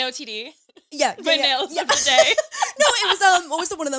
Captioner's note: laughs